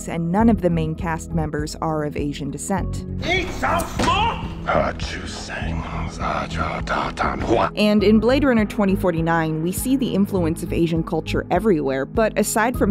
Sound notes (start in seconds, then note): 3.1 yelling in Chinese; 4.6 Book cursing in Chinese